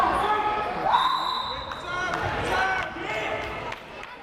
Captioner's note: whistle blares